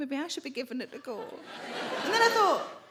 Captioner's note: audience laughing